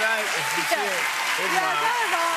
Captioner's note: cheers and applause